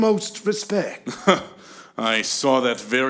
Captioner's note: laughs